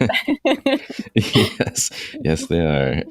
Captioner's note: laughter